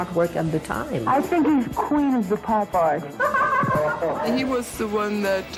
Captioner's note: laughs